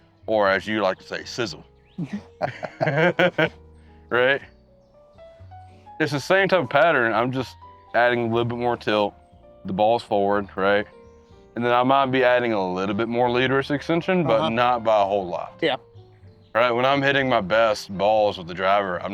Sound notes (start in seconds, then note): 3.5 both laugh